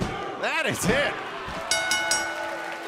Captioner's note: crowd cheering; bell ringing